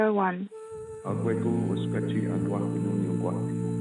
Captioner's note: foreign language 00:48:18